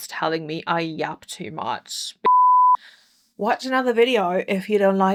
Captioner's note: beep